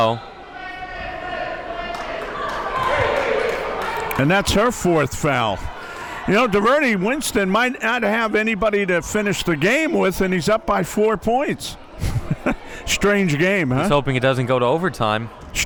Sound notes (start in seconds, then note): 11.8 laughs